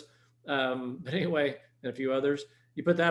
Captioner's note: chuckles